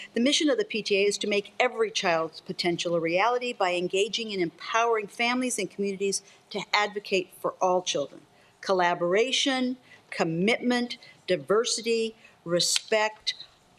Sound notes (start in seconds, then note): none